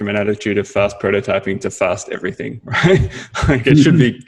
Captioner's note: laughs